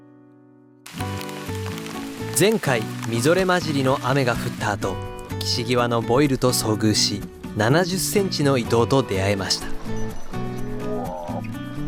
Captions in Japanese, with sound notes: [強い雨が降る音] 前回 みぞれ混じりの雨が降った後 岸際のボイルと遭遇し 70センチのイトウと出会えました